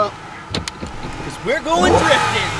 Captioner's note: seatbelt click